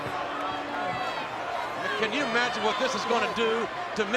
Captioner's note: applause